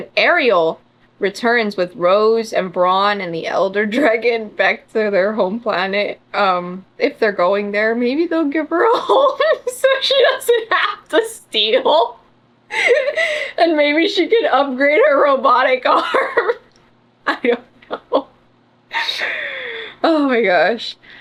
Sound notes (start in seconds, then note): 12.7 laughs; 16.1 laughs